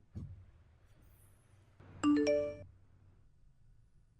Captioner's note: phone sound